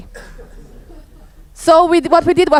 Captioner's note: audience laughs